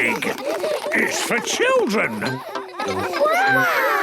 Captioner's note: children laughing